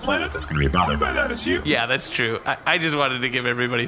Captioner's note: laughing